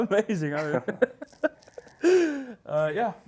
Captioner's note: laughs